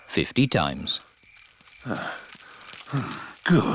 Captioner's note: panting